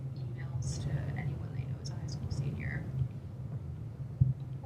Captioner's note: none